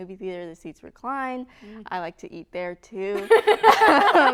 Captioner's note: laughter